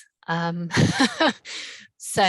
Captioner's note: laughs